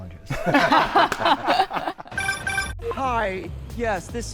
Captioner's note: all laughing